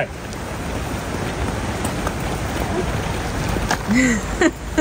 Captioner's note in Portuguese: água corrente